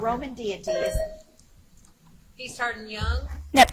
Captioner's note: buzzer chimes